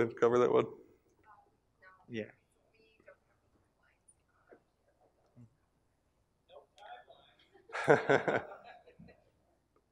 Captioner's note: laugh